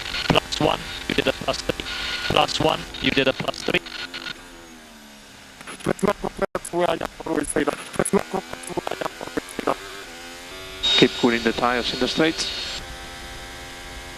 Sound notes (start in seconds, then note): 6.3 feedback